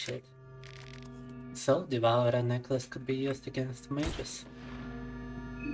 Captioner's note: speaking in Russian